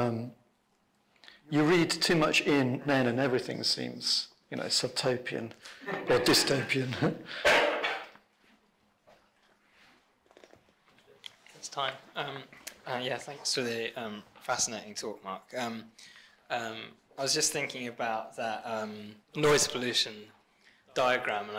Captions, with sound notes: You read too much in Nairn and everything seems, you know, subtopian or dystopian. (laughs) (coughs) - It's time. Yeah, thanks for the fascinating talk, Mark. I was just thinking about that noise pollution diagram,